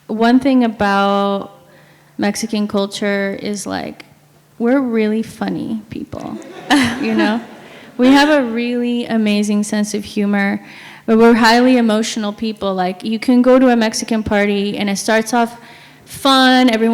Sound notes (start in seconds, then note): 6.3 sound of audience laughing